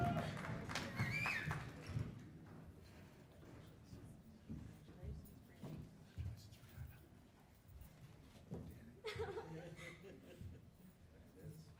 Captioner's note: cheers and applause